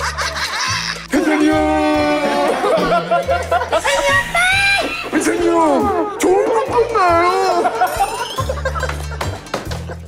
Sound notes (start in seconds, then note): 2.3 big laugh; 7.3 laughter never ends